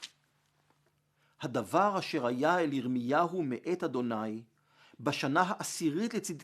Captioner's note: Hebrew